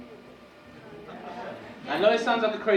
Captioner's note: audience mumbling